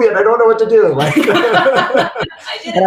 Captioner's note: laughing